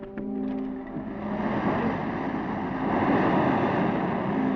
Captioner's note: engine revs up